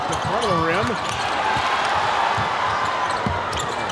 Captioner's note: audience cheers